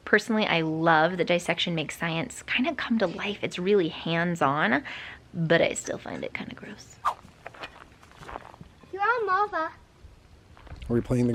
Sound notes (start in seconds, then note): 7.0 air whooshing